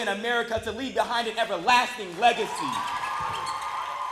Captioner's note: cheers and applause